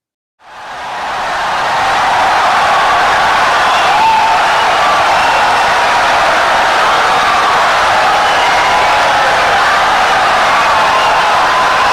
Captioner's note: wild applause and cheering for 17 seconds